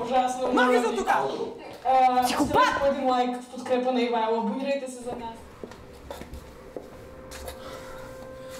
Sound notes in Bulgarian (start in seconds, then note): 3.5 силен звук телевизор